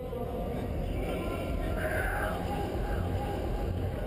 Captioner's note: crowd talking